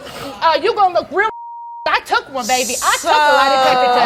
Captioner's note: beeps